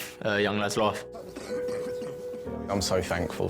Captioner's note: coughing